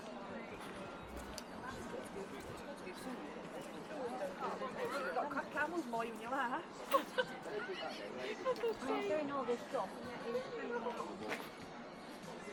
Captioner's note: customers chatting